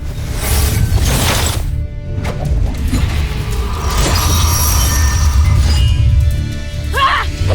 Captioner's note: sword whoosh; weapons swoosh; growling & grunting; tense music playing